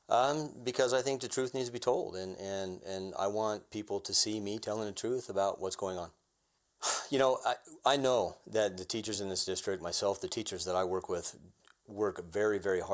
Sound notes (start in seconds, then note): 6.8 sighs